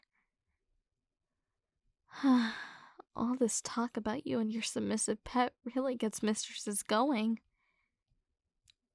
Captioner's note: sigh